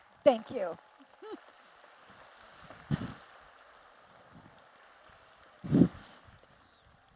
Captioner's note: applause